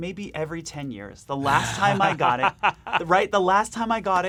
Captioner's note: laughs